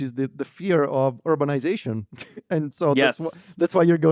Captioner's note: laughs